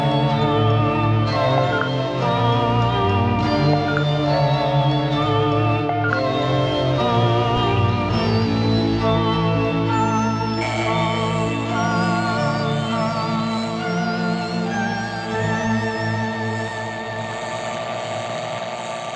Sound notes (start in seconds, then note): 2.4 satellite beeping; 10.5 alarm buzzing